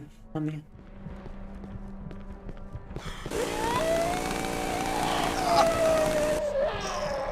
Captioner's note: screaming